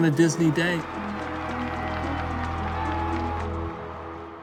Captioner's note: applause